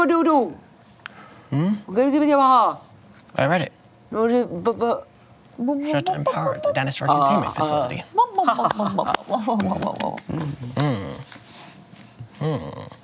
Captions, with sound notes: (questioning grunting) Hmm? (grunting) I read it. Shut down power at the Dinosaur Containment Facility. (understanding grunt)